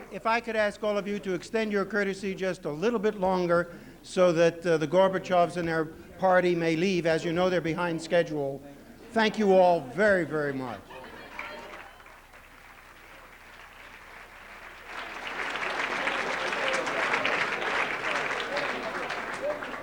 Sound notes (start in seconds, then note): 11.1 applause